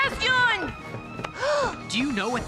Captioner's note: gasps